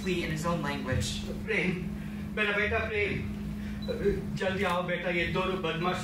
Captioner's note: speaks in foreign language